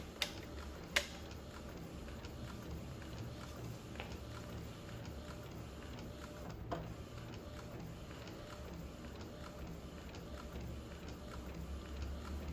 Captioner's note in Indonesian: suara mesin printer